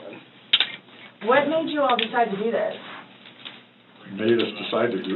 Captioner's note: handcuffs clicking